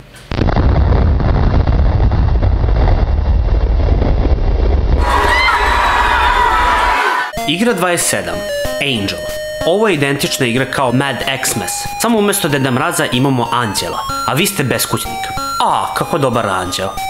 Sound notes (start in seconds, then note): 0.2 explosion; 4.8 screaming and mass hysteria